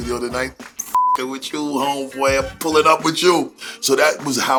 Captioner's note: beep